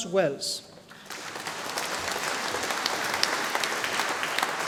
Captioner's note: audience applauding